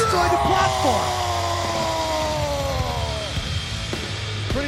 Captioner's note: Strowman yells